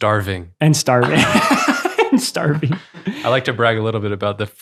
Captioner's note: laughing